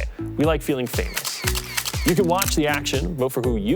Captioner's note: cameras clicking